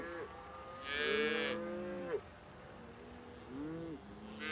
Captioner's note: cows lowing